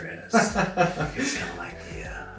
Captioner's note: laughter